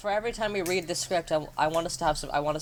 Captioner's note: stammering like he's beat boxing